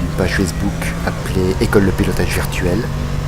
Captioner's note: in french only